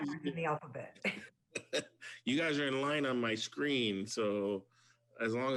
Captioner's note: laughs